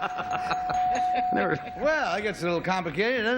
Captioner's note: dinging